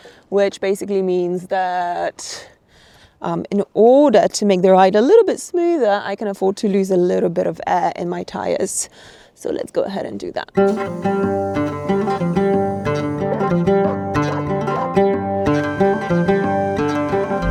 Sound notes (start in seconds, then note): 10.6 air hissing; 11.1 pleasant music